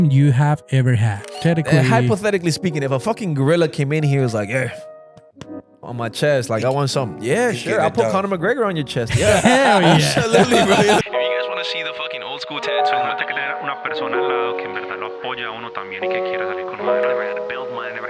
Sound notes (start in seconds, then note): 13.6 speaking in foreign language